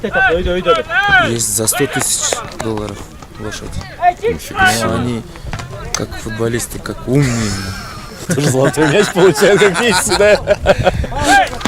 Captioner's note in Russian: Смеюсь